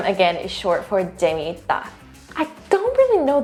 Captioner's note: speaks in Korean